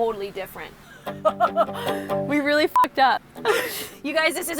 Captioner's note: laughs